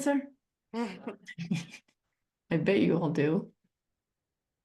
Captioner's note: chuckles